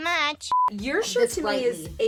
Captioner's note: beep